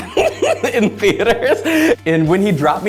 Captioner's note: laughs